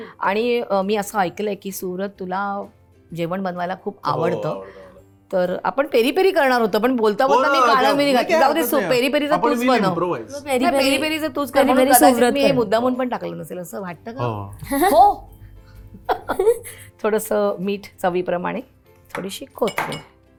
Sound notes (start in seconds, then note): 16.0 chuckles